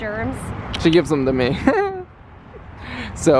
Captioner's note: chuckles